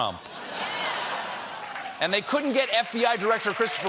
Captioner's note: laughter; applause